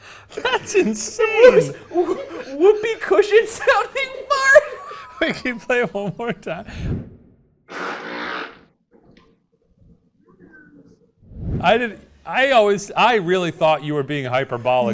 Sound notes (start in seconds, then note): 7.7 person farting